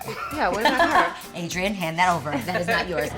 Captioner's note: laughs